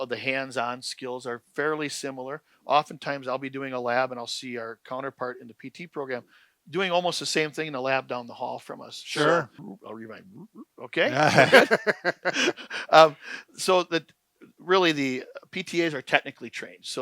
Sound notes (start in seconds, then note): 11.0 men laughing